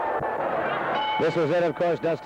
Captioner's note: crowd cheering; bell dings